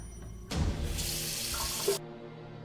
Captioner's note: water running